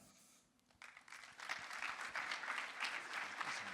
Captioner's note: applause